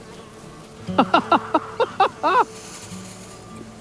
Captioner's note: laughs